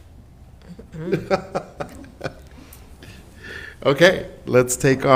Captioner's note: laughs